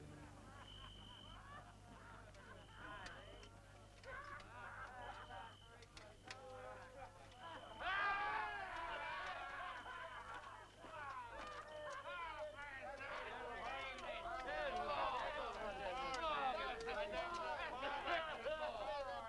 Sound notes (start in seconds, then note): 0.8 guards reveling; 8.4 guard hollering